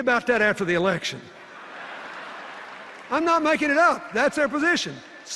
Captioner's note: laughter and applause